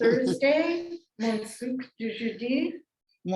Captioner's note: non-english speech